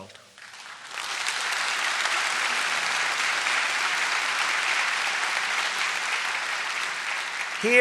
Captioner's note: applause